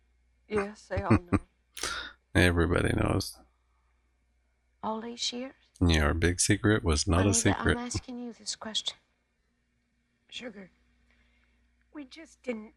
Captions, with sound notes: [Chuckling] Everybody knows. Your big secret was not a secret.